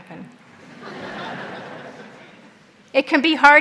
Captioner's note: audience laughs